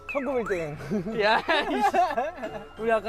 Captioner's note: huhuhuhuhu